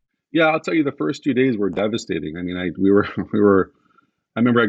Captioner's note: chuckles